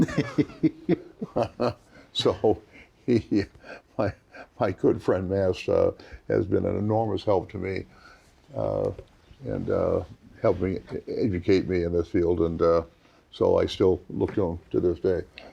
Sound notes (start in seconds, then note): 0.0 panel member laughs; 1.5 laughs